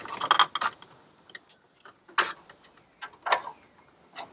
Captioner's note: parts rattle